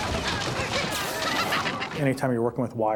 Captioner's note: both laugh